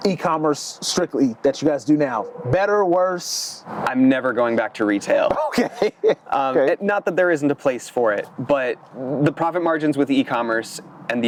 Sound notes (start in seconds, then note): 5.3 laughing